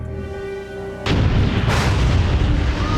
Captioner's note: thunder clap; screaming